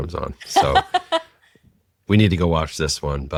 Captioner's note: laughs